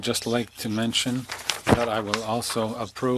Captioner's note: speaking french